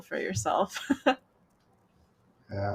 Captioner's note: laughs